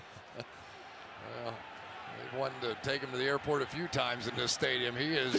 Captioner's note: chuckles